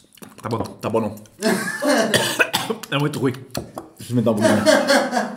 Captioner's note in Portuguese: risos